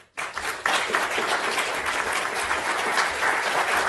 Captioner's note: applause